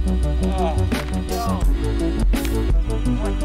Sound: groaning

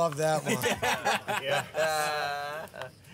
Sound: laughing

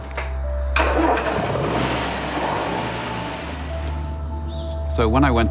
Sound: starting engine, revving

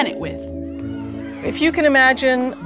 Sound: kids laughing / shouting

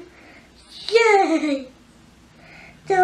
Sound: sarcastically

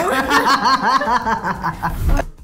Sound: both laugh

